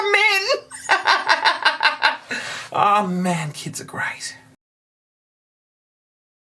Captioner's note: laughter